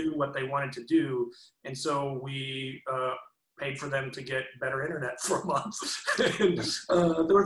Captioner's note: laughs